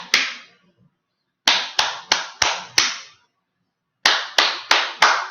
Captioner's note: clap, clap, clap, clap, clap